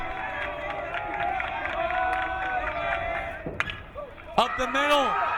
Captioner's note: crowd cheering